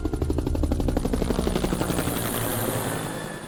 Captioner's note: helicopter whirs